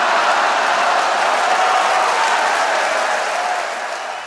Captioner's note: people laughing; people cheering